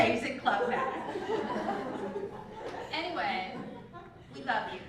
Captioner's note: laugh